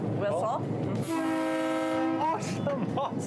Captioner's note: train whistle blowing